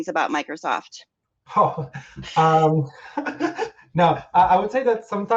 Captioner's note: giggles